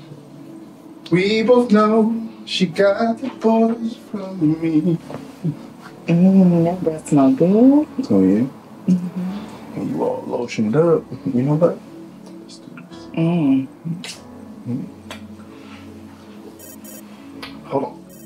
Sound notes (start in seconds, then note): 15.0 phone ringing